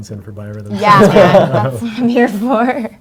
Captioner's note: panel laughs